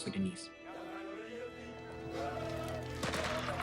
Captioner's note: speak in foreign language; gunfire